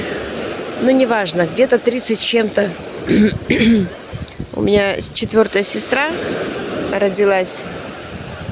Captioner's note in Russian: откашливается